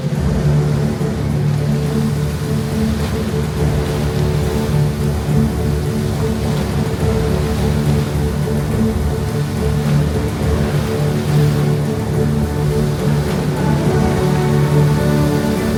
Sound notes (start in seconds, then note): 0.1 epic music plays; 0.1 fountain splashes; 9.7 epic music plays; 9.7 fountain splashes